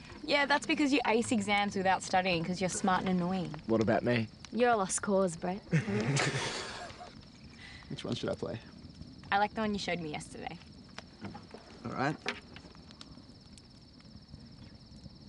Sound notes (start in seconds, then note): 5.7 laughter